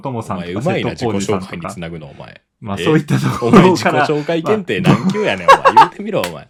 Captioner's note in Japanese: 笑い